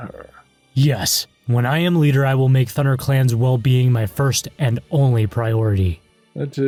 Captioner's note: confident